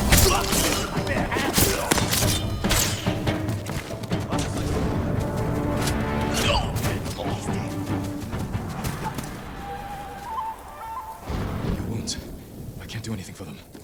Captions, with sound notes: (grunting) (thunder rumbling) - Get off me! (sirens blaring) - You won't. I can't do anything for them.